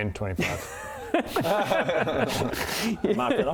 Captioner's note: laughs in rogue maths